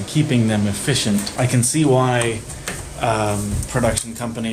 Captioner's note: light switch clicks off